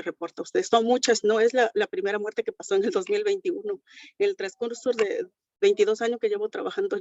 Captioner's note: audio distortion